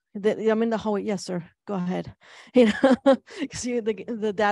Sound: chuckles

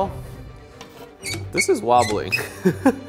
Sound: squeaking; laughs

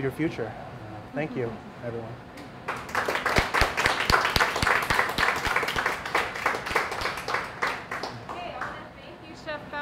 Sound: applause

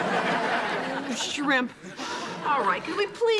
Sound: audience laughing

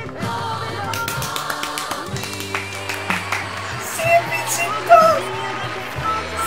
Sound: forever clapping

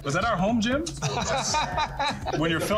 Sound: cast laughs

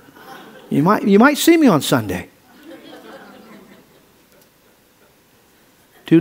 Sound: audience laughs

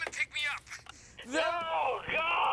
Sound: on speakerphone

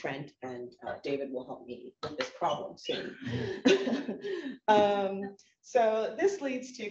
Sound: chuckles

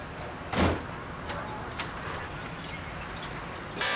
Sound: people chattering; door banging

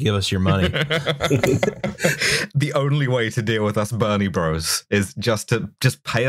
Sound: laughter

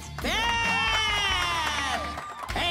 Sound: cheering

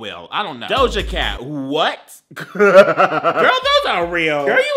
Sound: laughing

